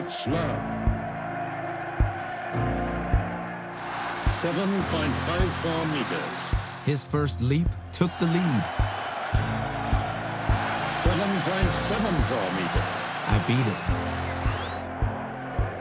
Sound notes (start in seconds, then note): 7.9 cheers and applause